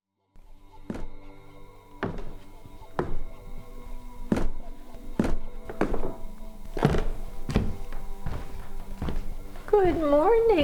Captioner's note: sound of footsteps on stairs